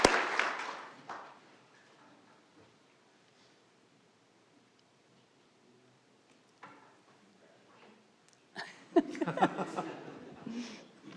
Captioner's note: applause